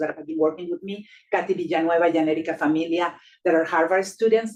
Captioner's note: speaking Spanish